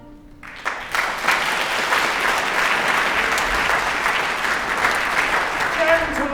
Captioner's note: applause